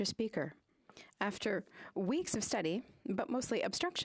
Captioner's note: speaking French